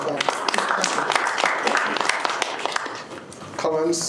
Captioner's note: applause